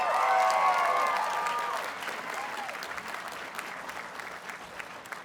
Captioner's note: audience cheers and applauds